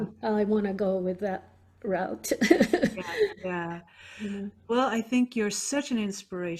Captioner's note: laughs